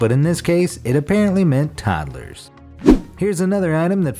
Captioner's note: air whooshes